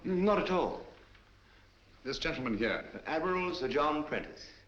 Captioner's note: none